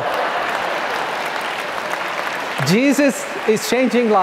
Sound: audience clapping

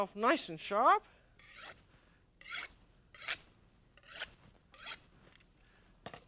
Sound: scraping

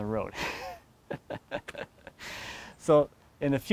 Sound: snickers

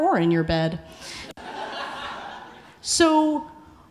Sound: audience laughing

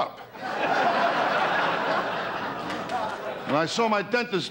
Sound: audience laughter

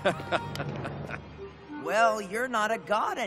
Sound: evil laughing

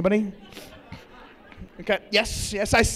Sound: laughter

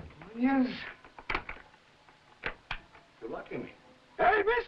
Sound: door locking

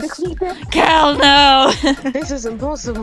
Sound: laughs

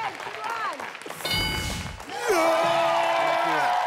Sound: audience and contestants clapping; dinging

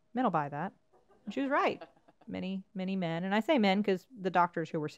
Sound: laugh

